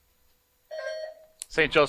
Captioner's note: buzzer buzzing